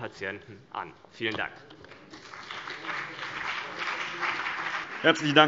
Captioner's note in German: Beifall CDU und BÜNDNIS 90/DIE GRÜNEN